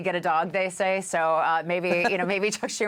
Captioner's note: laughter